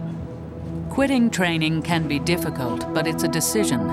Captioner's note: voiceover